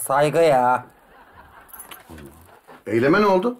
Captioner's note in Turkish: Gülme efekti